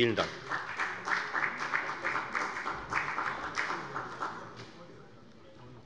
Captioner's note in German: Beifall bei der FDP